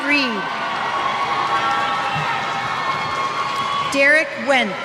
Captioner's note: cheers